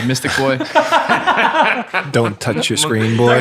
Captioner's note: laughing